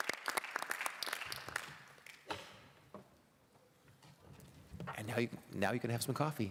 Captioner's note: applause